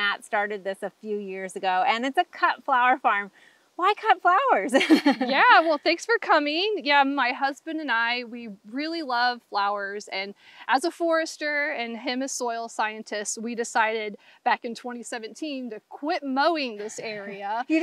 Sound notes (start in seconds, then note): 4.8 laughs